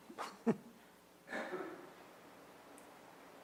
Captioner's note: laughs